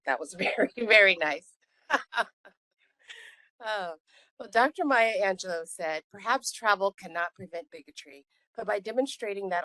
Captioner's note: laughing